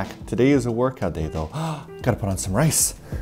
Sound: gaaassspp

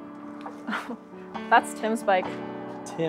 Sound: chuckles

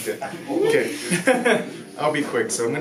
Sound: both laugh

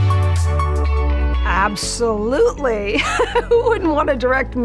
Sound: laughs

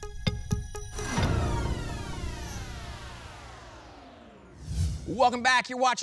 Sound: phaser sound

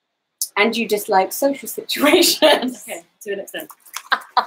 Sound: laughs

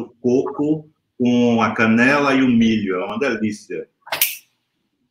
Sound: speaks portuguese

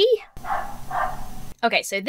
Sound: dog barking

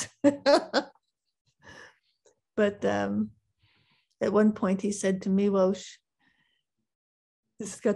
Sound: laughs

